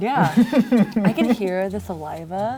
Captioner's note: laughing